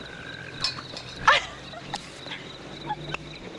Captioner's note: girl giggling